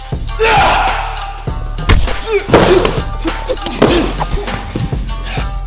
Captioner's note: fighters grunt and punch, kicks swish